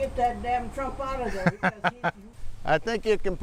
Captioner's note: laughter